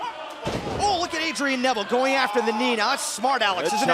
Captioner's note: fans chanting